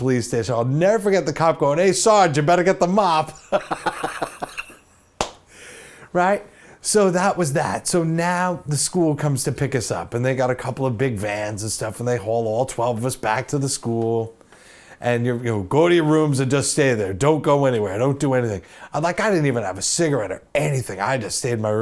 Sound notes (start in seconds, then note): 3.4 laughs